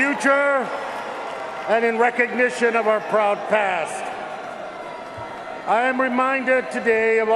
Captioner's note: cheers and applause